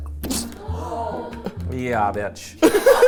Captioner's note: imitates frog squishing; crew gasping; everyone laughing